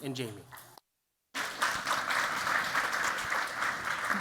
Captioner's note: applause